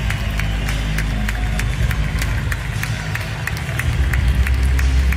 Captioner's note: applause